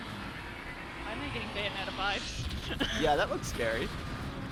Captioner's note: laughs